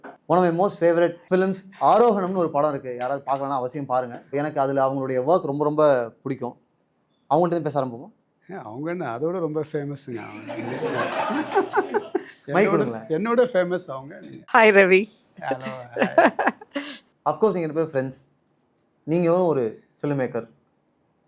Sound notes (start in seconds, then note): 10.2 laughter; 15.4 laughs